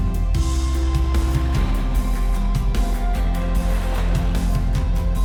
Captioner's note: waves splashing